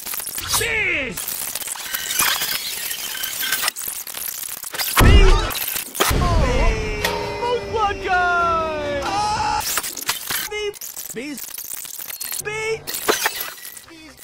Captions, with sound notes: beees!! obnoxiously loud sdkajbfasdkjfk bee *screeches of terror* beeeeeeeeeeeeeeeeeeee (ahhh) bee bees bee bees